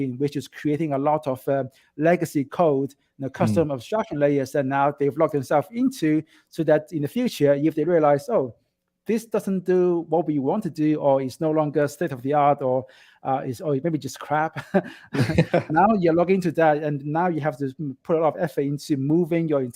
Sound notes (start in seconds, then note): 14.6 laughing